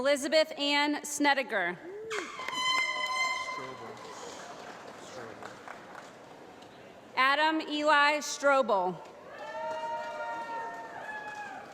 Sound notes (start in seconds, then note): 2.1 air horn tooting and applause; 9.4 applause